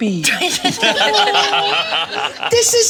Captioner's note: all laughing